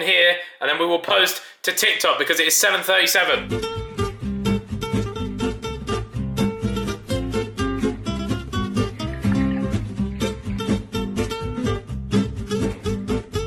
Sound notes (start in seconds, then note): 2.5 soft guitar music; 9.0 water splashes